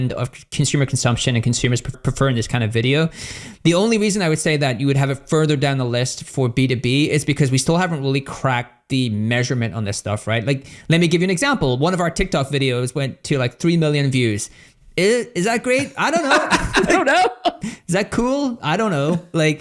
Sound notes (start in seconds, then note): 15.6 laughs